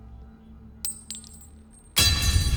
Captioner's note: coin tinkling; sinister music